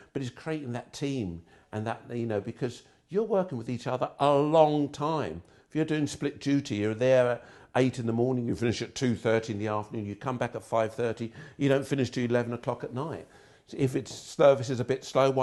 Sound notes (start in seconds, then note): none